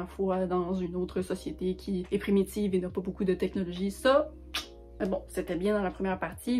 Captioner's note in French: kiss